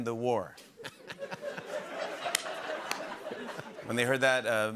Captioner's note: light laughter